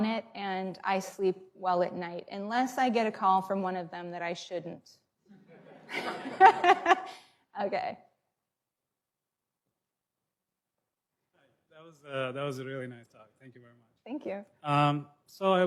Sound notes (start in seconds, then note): 5.3 laughter